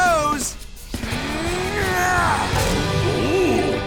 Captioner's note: grunting